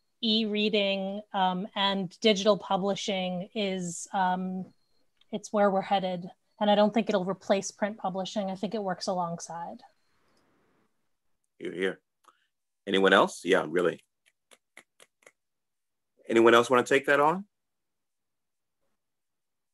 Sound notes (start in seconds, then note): 14.2 snaps